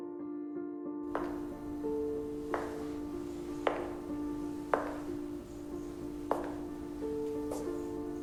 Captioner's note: footsteps reverberate off of the floor